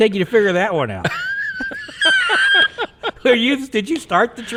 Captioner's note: people laughing